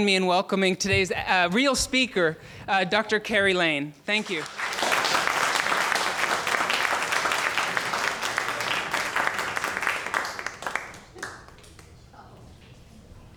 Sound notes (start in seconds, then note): 4.1 applauding